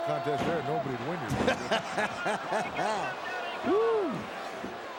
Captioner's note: Jim laughing